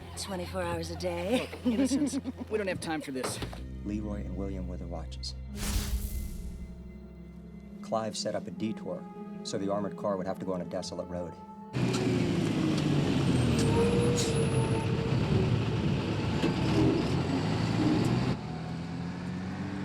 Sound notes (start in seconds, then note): 13.9 brakes squeal; 16.4 truck engine rumbles